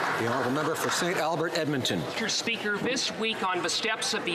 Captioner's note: some Applause